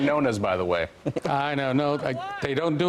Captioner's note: laughter